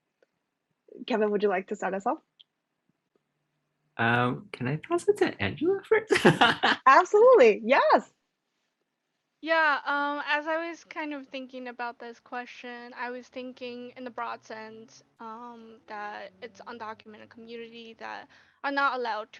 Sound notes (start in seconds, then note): 6.0 laughs